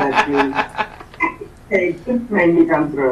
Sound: chuckles

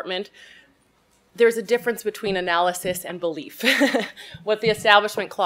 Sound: chuckles

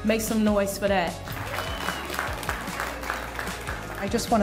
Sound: audience applauding

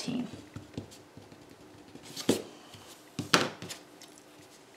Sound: pencil scribbles

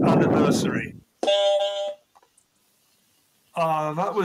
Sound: honk, honk

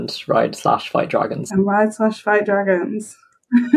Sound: laughs

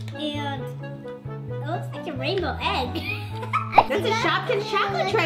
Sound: laughs

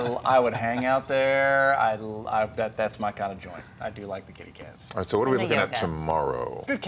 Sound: laughter

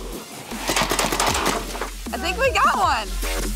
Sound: cars clattering

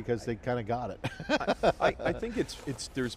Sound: laughs

